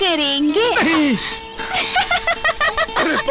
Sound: laughing

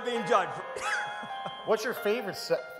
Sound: chuckles

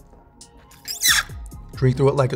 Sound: squealing

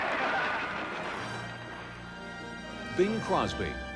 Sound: cheering

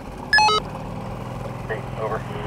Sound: receiver beeping

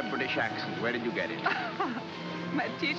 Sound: Frederica laughs

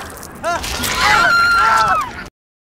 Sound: screams

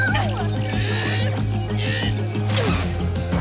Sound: grunting

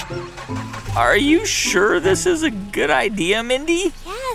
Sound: soundbite of engine revving

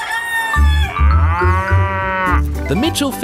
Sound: cockerel crows; cow moos

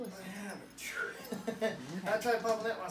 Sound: groans

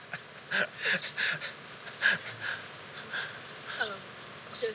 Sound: laughs

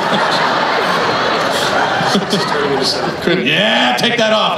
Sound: everyone laughs

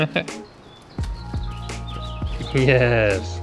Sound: laughing

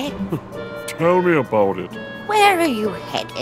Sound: chuckles

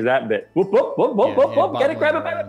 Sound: shouting

